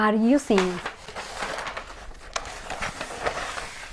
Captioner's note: paper rustling